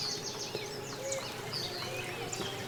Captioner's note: none